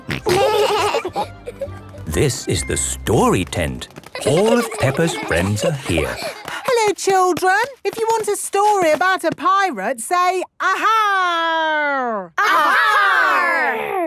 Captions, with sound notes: - Grunt! Grunt! - (laughing) - This is the Story Tent. All of Peppa's friends are here. - (excited babbling) - Hello children! If you want a story about a pirate, say, "Ahaaaaarg!" - (all shouting) "Ahaaaaarg!!"